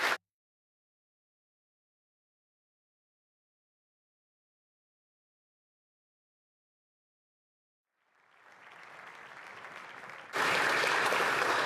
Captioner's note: applause